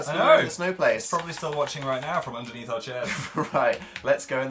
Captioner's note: chuckles